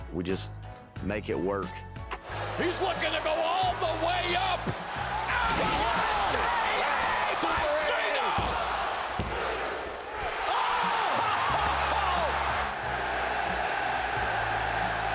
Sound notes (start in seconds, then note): 8.9 crowd counts; 9.1 ref slams hands; 12.3 crowd cheers